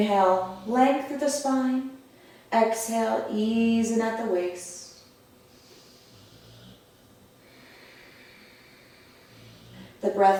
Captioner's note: audible breath